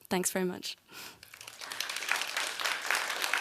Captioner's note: applause